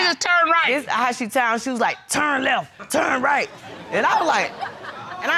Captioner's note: deep voice